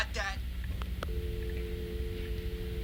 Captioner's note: dial tone